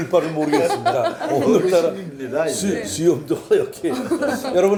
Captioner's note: hahaha!